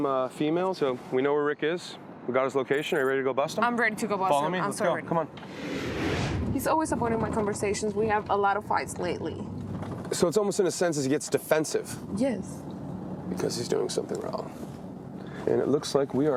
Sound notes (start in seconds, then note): 5.4 dramatic whoosh